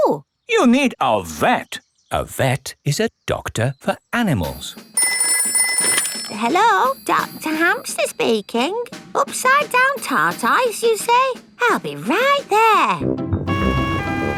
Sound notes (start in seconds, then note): 4.8 ringing; 13.4 siren wailing